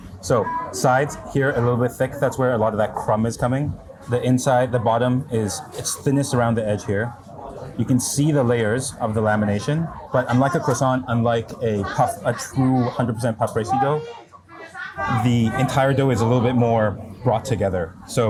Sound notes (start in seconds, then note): 14.3 person speaks in foreign language